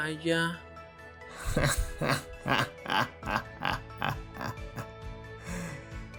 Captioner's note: Palpatine laughter